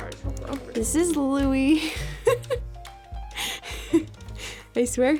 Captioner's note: laughing